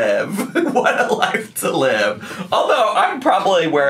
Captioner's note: laughs